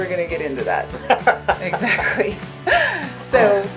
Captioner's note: light laughter